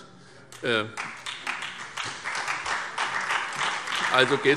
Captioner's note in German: Beifall SPD